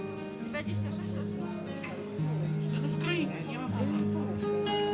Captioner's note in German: undeutliches Gerede